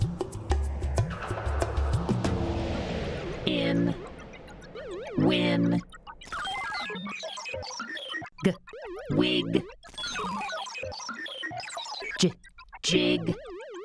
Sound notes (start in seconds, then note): 2.8 sounding out words in computer-generated voices